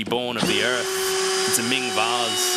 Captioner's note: drilling